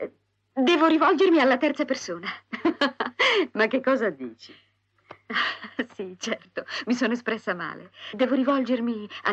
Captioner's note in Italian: risate